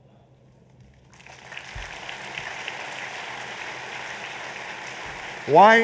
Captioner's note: applause